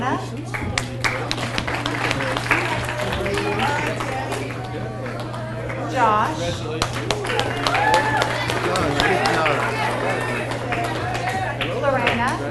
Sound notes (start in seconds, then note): 0.9 audience applauds; 0.9 people chattering; 7.5 audience cheers and applauds